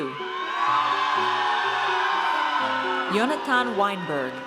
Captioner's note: audience cheers